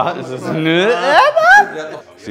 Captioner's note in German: Höher werdende Stimme